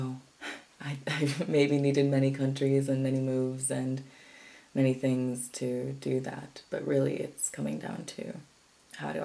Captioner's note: chuckles